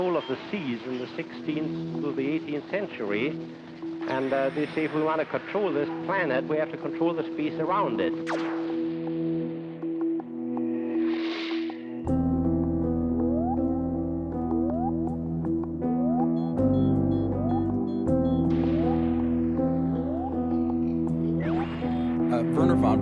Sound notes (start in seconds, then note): 8.2 zap; 13.0 electronic blooping noise; 16.5 beeping; 18.6 blooping continues